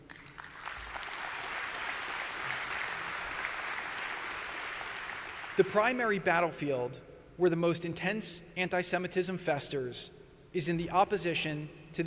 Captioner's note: applause